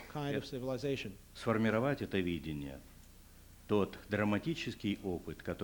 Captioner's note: non-english speech